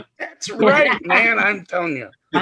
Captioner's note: members laughing